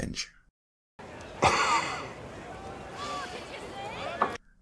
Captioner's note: Hound laughing